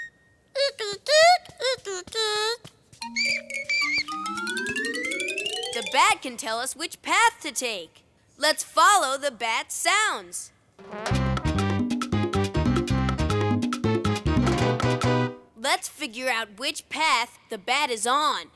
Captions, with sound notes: Eek, eek, eek, eek. [squeaking] The bat can tell us which path to take. Let's follow the bat sounds. Let's figure out which path the bat is on.